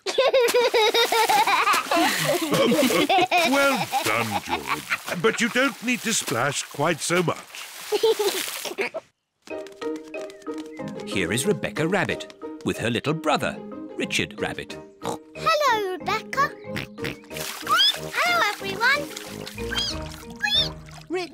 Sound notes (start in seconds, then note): 0.0 laughs; 2.2 all laugh; 7.9 giggles; 15.0 oinks; 19.5 richard squeaks; 19.6 squeaks